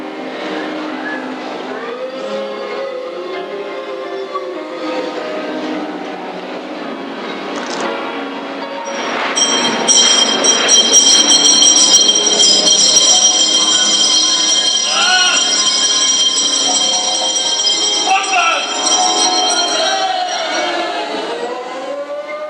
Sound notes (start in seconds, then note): 1.6 ghostly sounds; 8.9 A bell ringing; 22.2 ghostly moan